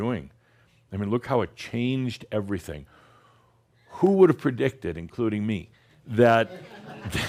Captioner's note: some chuckles